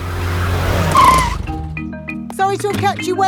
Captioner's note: brakes squeal